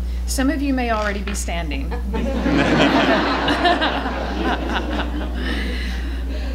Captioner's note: laughter